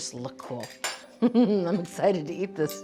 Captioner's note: Julia chuckling